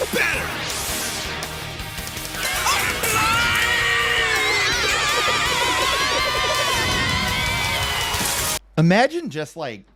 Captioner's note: screaming